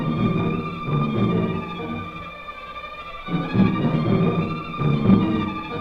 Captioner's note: tank engine rumbling; dramatic music